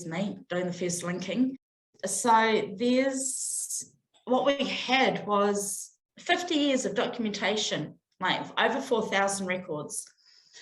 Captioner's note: deep breath